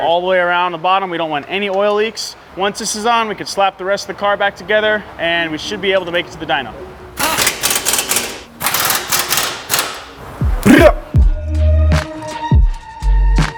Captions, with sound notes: all the way around the bottom. We don't want any oil leaks. Once this is on, we can slap the rest of the car back together and we should be able to make it to the Dyno. (metallic clanking) (high bass music)